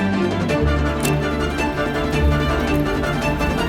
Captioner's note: fire crackling